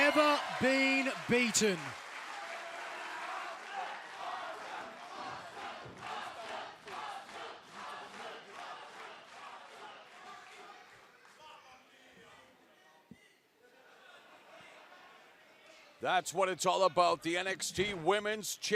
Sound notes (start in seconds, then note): 0.0 cheers and applause; 3.0 fans chanting